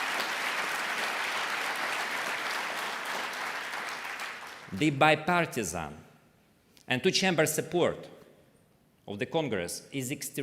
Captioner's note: applause